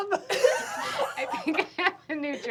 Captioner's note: laughter